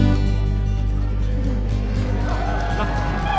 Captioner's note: applause